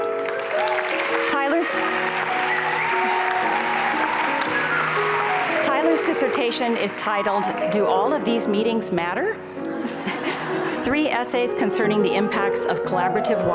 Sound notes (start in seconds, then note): 0.0 applause and cheering; 9.6 laughter